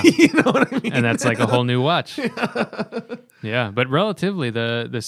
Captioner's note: laughter